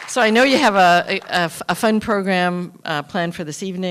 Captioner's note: applause